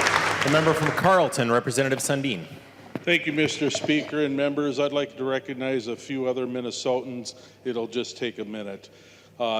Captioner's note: applause